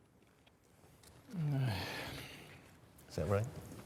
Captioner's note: sighs